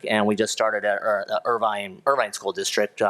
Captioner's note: none